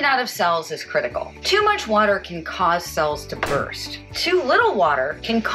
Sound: popping noise

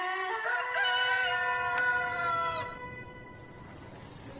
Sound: cock crows

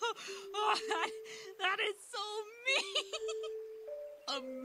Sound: Hover laughs; continues laughing

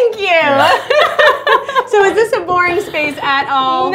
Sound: laughter

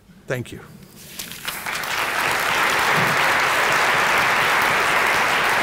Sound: applause

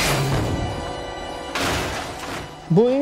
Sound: crash

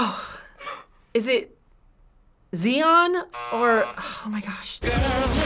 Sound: buzzer rings

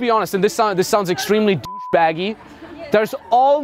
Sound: beep

